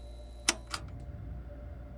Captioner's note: button clicks; gloomy music